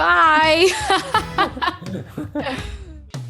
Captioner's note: laughing